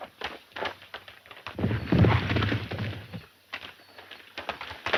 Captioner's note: horses galloping